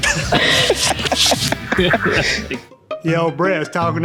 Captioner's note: laughter